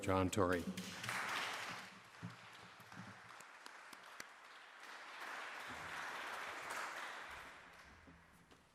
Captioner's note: applause